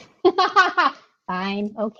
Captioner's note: laughing